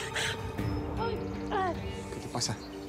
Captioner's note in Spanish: sollozos